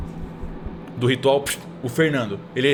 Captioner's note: whiff